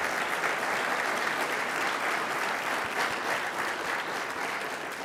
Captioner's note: applause